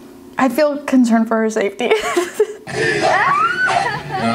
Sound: laughs

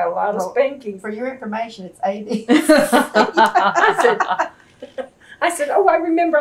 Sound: laughter

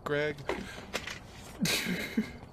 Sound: awkward Laugh

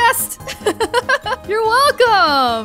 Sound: laughs

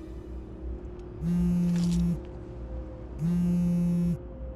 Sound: phone vibrates

